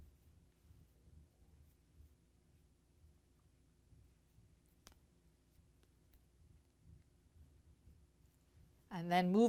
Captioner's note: no Significant Sound